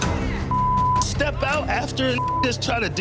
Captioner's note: beep